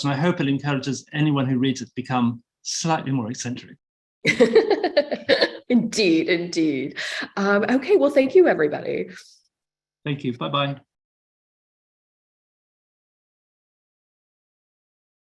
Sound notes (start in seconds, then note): 4.3 laughing